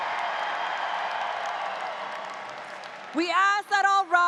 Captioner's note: audience cheers